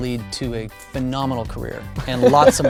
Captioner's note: laughs